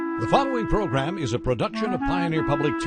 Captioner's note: voiceover